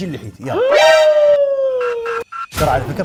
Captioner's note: gasps